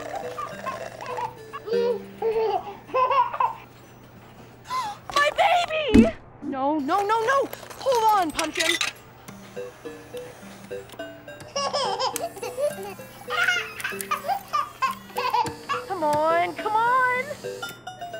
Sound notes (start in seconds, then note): 0.0 baby coos; 4.6 gasping; 11.4 baby laughs